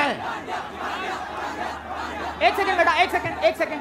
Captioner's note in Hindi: चियरिंग